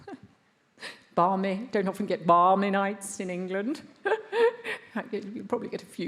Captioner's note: laughs